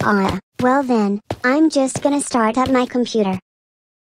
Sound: footsteps

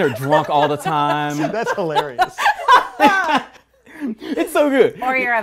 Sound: laughing

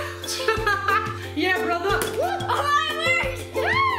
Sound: laughs; loud slap; laughs

